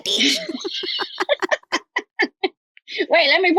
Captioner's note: laugh